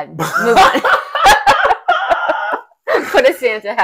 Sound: laughing

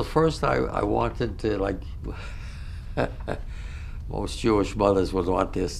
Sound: laughs

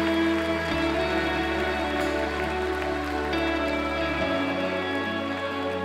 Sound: crowd

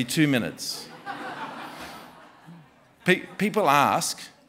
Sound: laughter

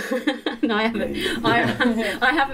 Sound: laughter

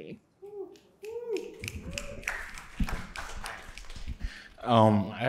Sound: audience cheers

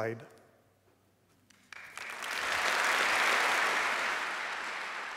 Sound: applause

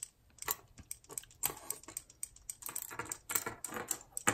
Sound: toy clatters

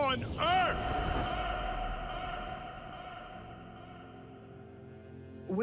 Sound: echoing

